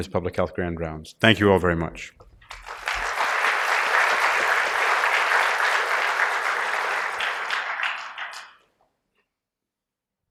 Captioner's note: applause